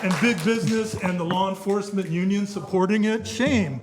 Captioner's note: applause